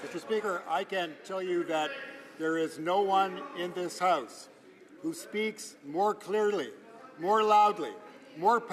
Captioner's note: some Applause